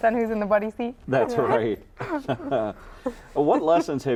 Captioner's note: laughing